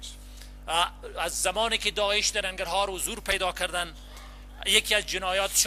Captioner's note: translator speaking in foreign language